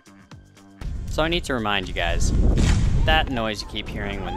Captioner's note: loud pop